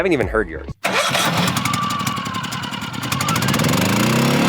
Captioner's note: generator revving